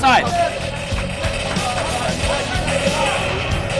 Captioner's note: gunfire